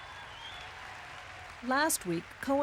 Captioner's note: audience laughs and cheers